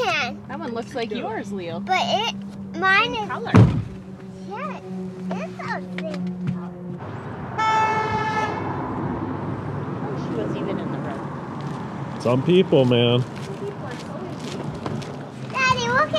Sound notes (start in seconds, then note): 7.1 horn